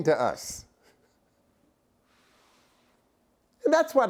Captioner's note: laughter